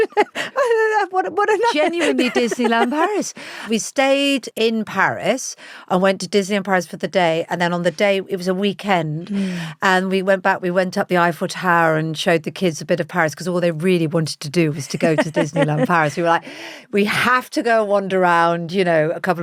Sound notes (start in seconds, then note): 0.0 laughs; 14.9 laughs